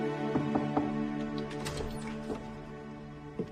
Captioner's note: knocking